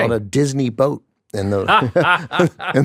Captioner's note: laughs; chuckles